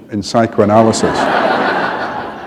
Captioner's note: laughter